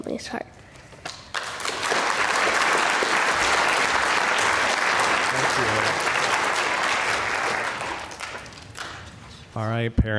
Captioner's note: applause